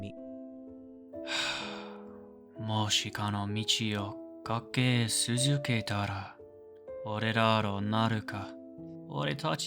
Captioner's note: sigh